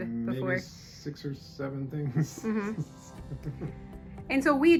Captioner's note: laughs